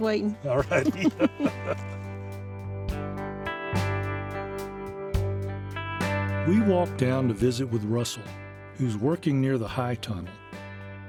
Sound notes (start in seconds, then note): 0.5 laughing together